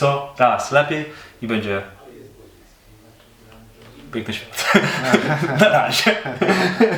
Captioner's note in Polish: śmiech